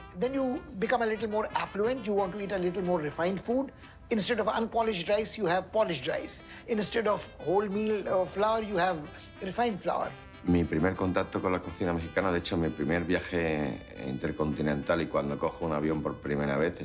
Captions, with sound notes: Then you become a little more affluent. You wanna eat a little more refined food. Instead of unpolished rice, you have polished rice. Instead of whole-meal flour, you have refined flour. [in Spanish] My first contact with Mexican cuisine… Actually, my first international trip and first time on a plane